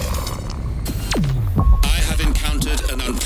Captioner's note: sonar pings